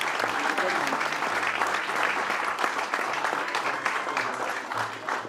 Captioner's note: applause